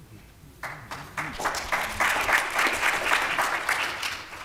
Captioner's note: applause